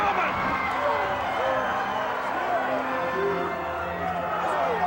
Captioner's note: crowd roaring